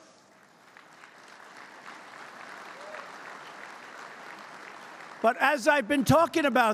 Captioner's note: applause